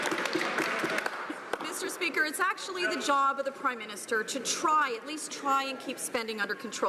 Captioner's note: laughing